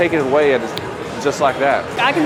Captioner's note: snaps fingers